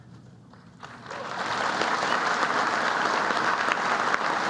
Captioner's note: applause